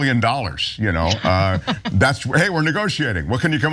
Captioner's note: laugh